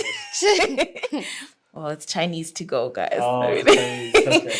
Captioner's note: laughing